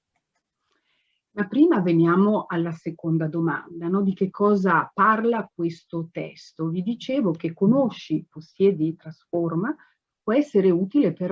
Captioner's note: speaks Italian